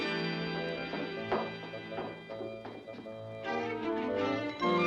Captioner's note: eerie suspenseful music; footsteps down stairs; eerie suspenseful music